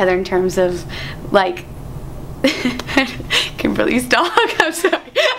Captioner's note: laughs